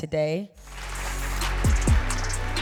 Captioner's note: upbeat music; applause